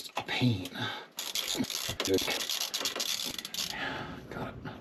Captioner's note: ratchet whirring